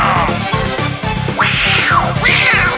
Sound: angry cat noises

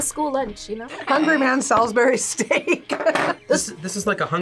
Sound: laughs

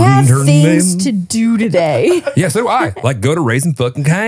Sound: laugh

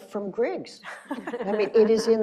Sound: laughing

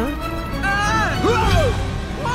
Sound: screams

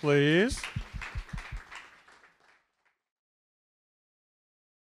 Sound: audience applause

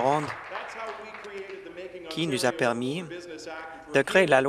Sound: applause

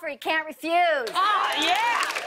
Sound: cheers and applause

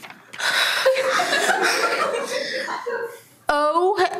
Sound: everyone laughs

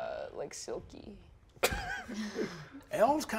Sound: laughing

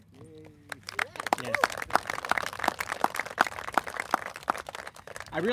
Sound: applauses

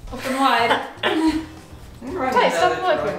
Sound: laughing

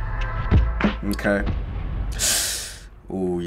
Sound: sucks in breath

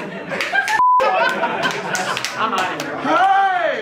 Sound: beep

